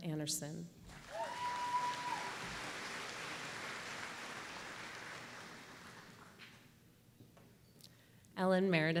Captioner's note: applause